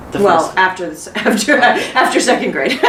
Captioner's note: laughs